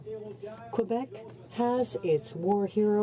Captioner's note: speaking French